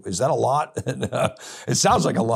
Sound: chuckles

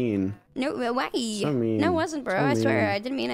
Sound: stimming noises

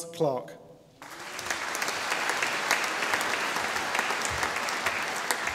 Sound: audience applauding

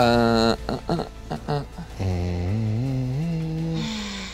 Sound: humming

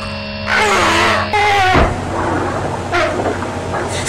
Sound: grunting

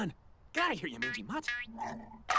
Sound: boingy prod noises; chomp noises

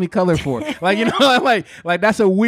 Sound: laughing

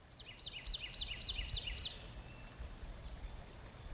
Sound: songbird trilling

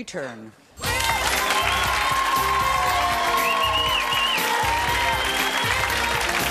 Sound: upbeat music; audience cheering

